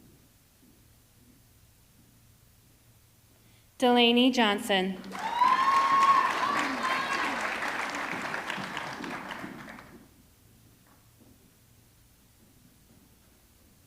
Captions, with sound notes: Delaney Johnson, (audience clapping) (audience cheering)